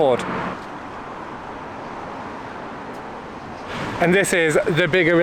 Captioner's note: traffic noise